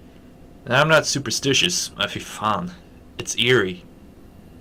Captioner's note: swears in Norse